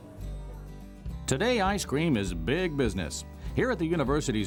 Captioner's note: voiceover